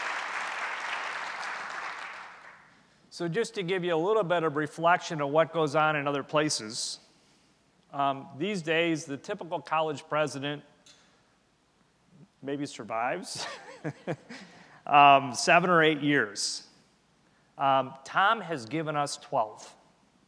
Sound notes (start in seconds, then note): 0.0 applause